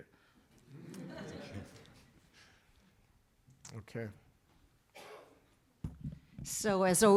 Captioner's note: laughter